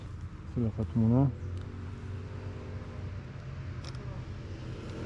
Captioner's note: Hebrew